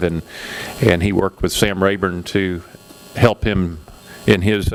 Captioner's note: none